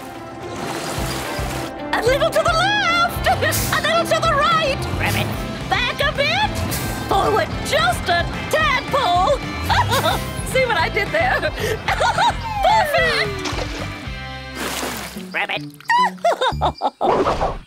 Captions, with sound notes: A little to the left! A little to the right! Ribbit. Back a bit! Just a tadpole. [chuckles] See what I did there? [chuckles] Perfect. Ribbit. [laughing]